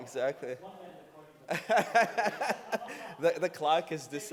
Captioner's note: laughing